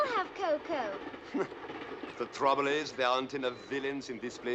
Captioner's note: chuckles